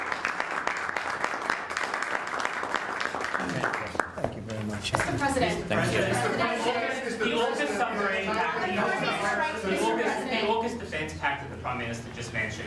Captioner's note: applause